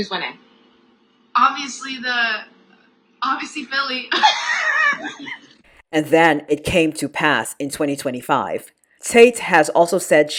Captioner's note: laughs